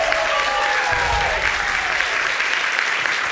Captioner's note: audience applauding